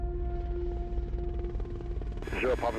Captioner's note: rotor whirring